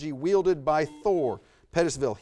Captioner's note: buzzer buzzes